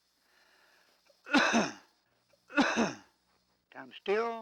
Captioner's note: coughing